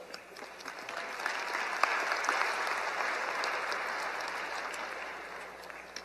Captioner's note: applause